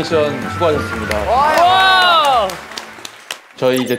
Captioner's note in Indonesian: tepuk